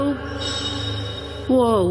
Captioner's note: metallic jingling